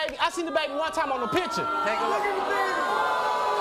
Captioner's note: audience booing